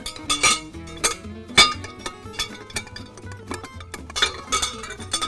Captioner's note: metal clanging on glass